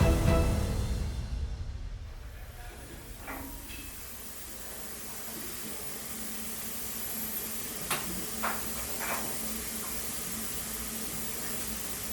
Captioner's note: sounds of steam pressure and workshop tools clanking